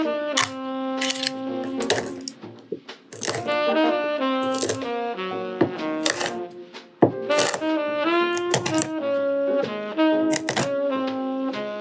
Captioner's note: rhythmic nut chopping